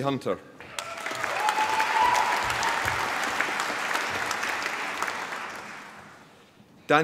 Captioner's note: applause